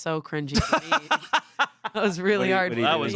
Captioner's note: laughs